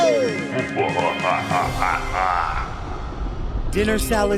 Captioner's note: laughs